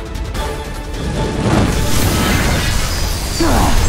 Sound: whirring sound

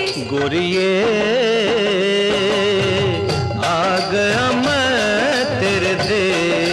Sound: none

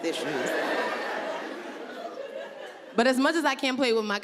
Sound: audience laughing

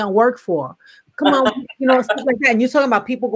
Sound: laughs

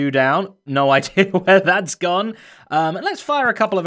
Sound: chuckles

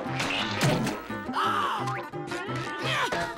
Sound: gasping; grunting

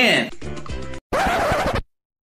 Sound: record scratches again

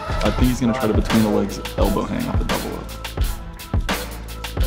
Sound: crowd chatter

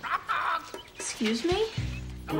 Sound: quirky music; parrot squawking

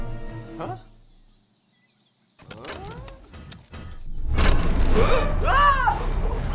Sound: screams

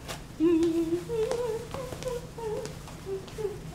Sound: Nora humming

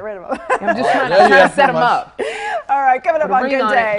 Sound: laugh

